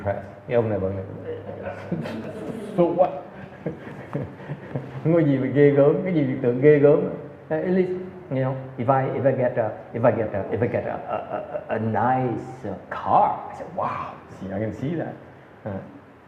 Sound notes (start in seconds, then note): 3.4 audience laughter